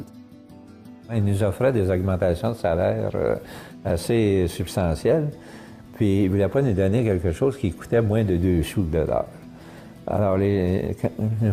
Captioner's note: french Talking